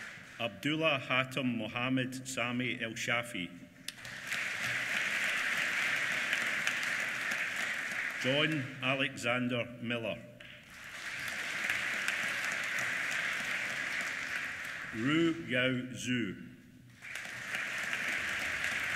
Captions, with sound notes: Abdullah Hatem Mohamed Sami ElShafie. (APPLAUSE) John Alexander Millar. (APPLAUSE) Ruoyao Zhuo. (APPLAUSE)